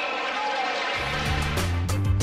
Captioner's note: crowd cheering